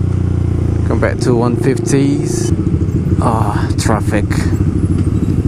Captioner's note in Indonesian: traffic